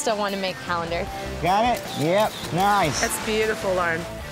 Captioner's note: camera snaps